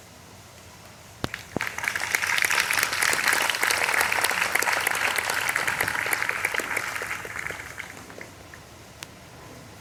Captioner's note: clapping